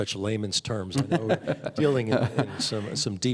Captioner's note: laughing